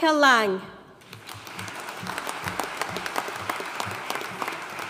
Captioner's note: audience applauding